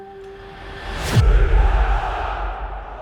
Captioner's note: crowd chanting